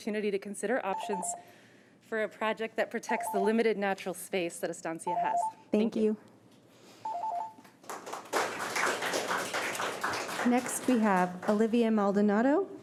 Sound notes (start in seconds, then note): 7.8 audience applauding